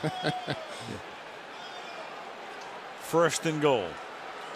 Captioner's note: laughs